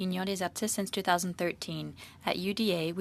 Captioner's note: speaking French